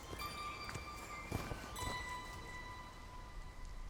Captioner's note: footsteps